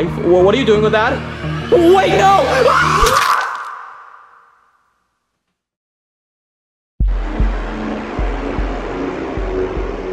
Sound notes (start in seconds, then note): 1.4 screams; 7.0 dramatic music